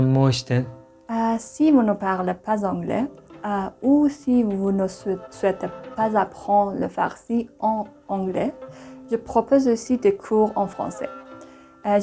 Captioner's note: French